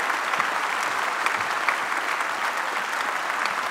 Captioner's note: applause